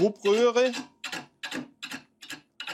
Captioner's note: scraping, hammering